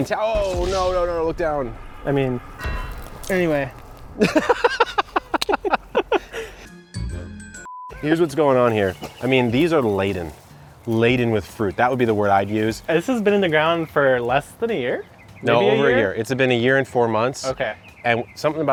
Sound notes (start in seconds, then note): 4.2 laughter; 7.6 beep